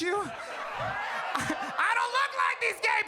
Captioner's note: audience laughs